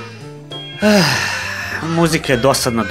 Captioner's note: sigh